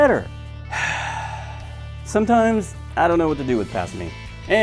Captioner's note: sigh